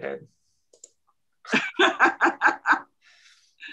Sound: laughs

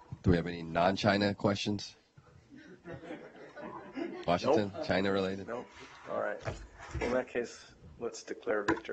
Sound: laughter

